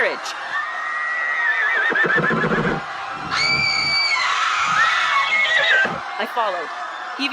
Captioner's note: more screams and boots and a screaming horse